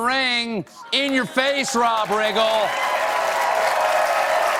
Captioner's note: applause